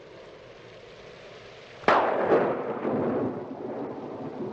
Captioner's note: thunderclap